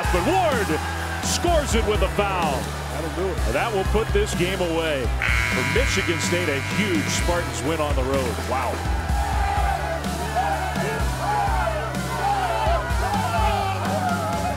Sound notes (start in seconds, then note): 5.2 buzzer goes off; 10.3 team cheering